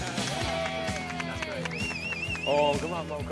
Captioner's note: cheers and applause